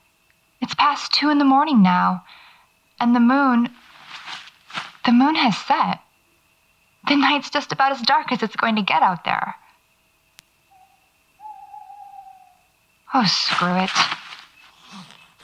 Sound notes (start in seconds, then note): 3.7 fabric rustling; 10.5 distant hoots from an owl; 13.3 ground crunches under feet; 14.7 sleeping bag unzips